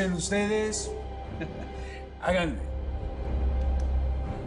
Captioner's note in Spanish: Risas